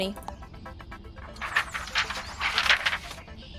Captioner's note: papers rustling